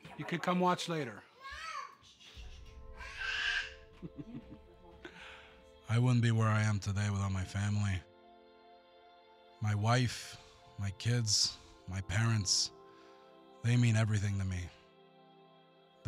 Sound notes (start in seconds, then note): 3.0 laugh